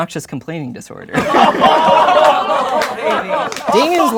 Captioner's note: laughing